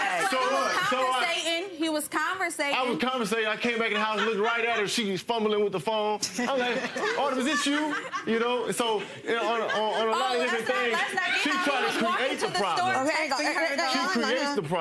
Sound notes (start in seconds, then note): 0.3 audience laughing; 7.9 woman laughing